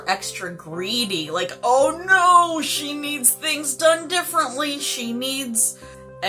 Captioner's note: in a most ridiculous voice